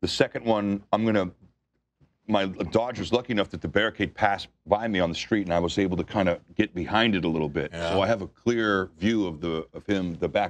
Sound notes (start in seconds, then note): none